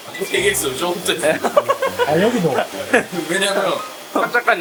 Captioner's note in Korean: 웃음